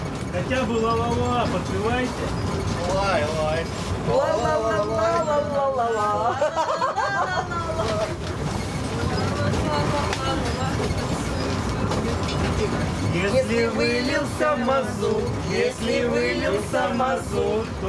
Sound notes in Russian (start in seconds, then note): 6.1 смех